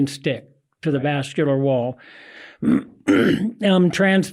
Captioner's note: clears throat